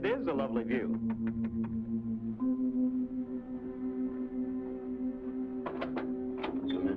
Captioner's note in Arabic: طرق الباب